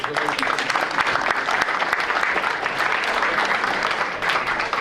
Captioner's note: audience applauding